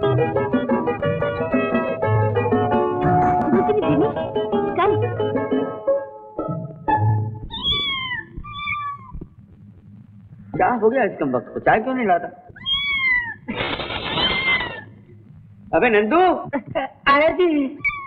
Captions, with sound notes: Jimmy, come. (Cat meow) What happened? Why is he not bringing the tea? (Cat meow) - (Laughs) Hey Nandu! I am coming. - (Cat meow)